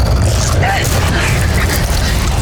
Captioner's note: guttural roar; grunts; guttural roar